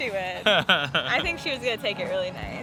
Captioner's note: laughing